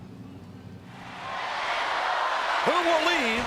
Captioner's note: crowd roars